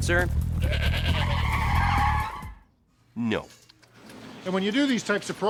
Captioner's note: brakes squealing